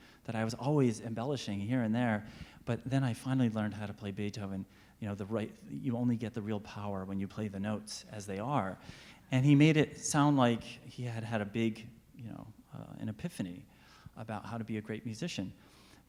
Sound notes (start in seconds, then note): none